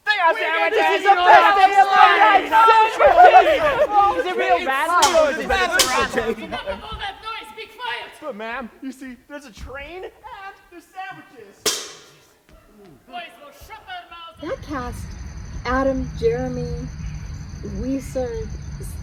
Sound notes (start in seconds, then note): 2.6 shouting over each other; 11.6 bangs pot